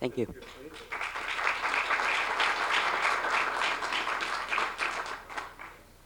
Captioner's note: applause